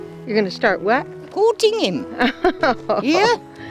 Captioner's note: laughs